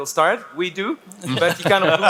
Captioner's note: panelists laugh